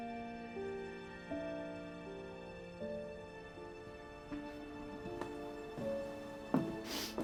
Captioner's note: Bree sniffles